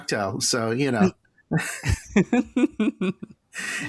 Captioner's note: laughter